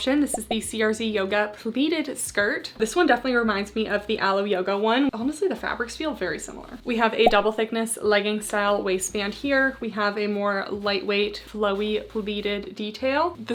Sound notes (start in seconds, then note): 0.3 screen whooshing; 7.2 graphics beeping